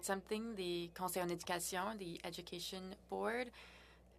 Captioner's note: speaking french